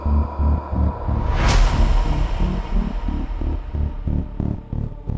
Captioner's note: image crashes